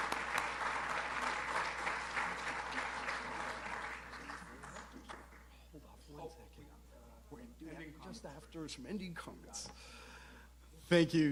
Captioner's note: applause